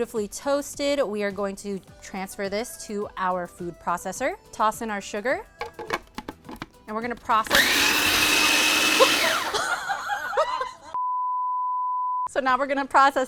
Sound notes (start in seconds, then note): 7.4 processor whirs; 9.0 laughs